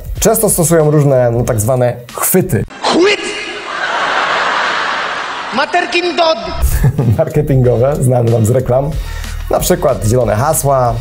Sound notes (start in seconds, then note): 3.4 laughter